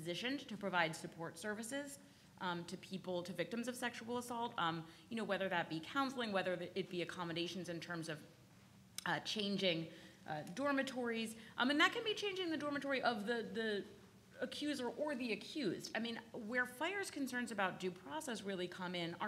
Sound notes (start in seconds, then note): none